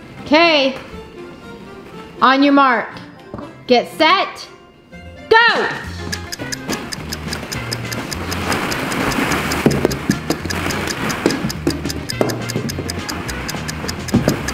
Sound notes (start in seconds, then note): 6.0 timer clicks; 10.2 balls thud